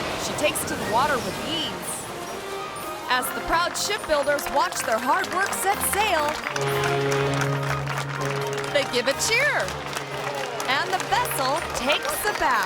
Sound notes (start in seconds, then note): 3.1 hands clapping; 6.4 foghorn blares